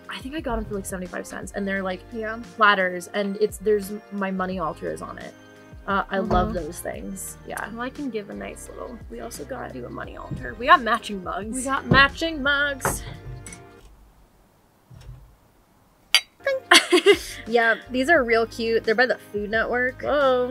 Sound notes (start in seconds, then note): 16.2 mugs clink; 16.6 laugh